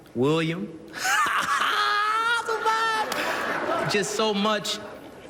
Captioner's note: laughs